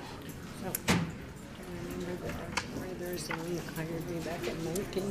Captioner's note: overlapping muttering